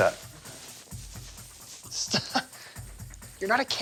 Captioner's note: laughs